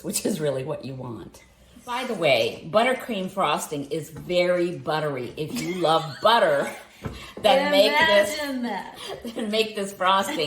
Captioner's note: laughs